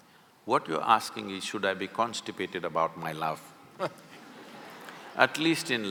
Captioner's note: laughter